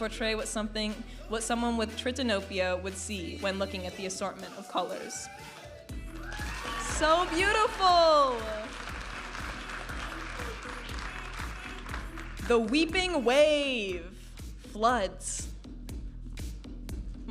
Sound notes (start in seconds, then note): 8.6 audience applauding and cheering; 10.7 upbeat music